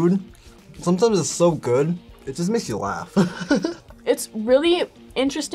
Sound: laughs

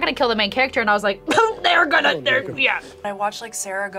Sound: coughs

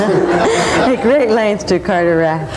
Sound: laughing; laughs; audience laughing

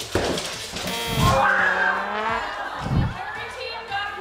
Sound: buzzer goes off

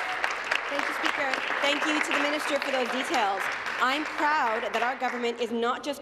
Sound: applause

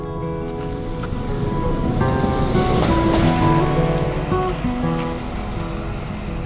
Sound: sound of guided bus passing

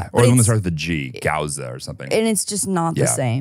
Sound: laughs

